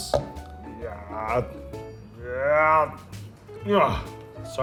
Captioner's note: groaning